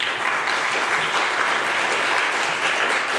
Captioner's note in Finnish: aplodeja